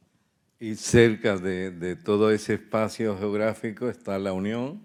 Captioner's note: speaking in Spanish